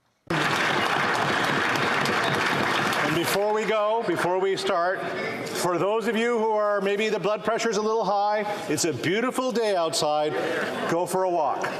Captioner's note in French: applaudissements